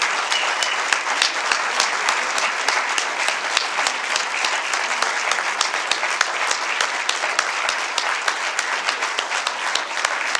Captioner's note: applause